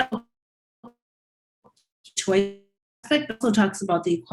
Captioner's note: audio distortion